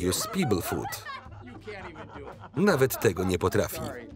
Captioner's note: laughter